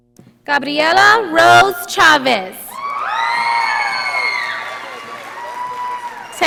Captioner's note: audience applauding